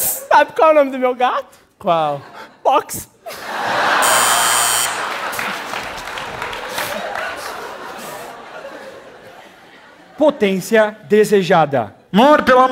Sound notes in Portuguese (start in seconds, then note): 4.0 campainha